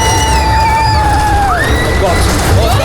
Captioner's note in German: schreien